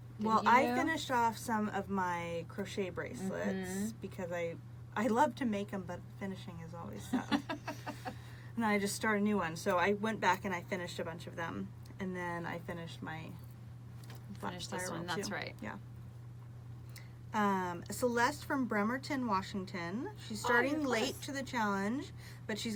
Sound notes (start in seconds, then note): 7.0 laughs